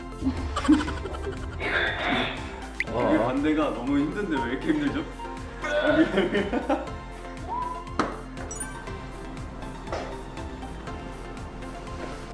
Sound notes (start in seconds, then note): 0.2 can’t hold their laughter; 5.8 controlling her laughter looks more difficult